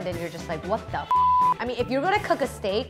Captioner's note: beep